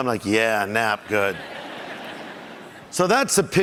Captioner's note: audience laughs